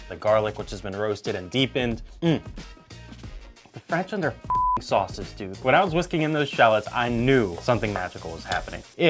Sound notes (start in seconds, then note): 4.5 beep